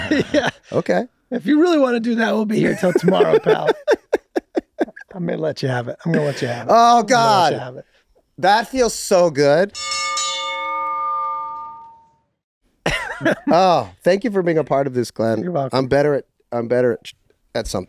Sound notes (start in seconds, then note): 0.0 laughs; 9.7 bell rings